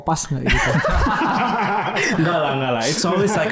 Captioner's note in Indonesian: tertawa